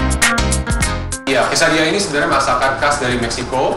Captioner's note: funk music; non-english speech